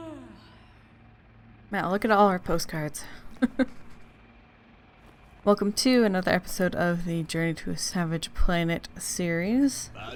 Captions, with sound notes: Wow look at all our postcards! *laughs* Welcome to another episode of the Journey to a Savage Planet series.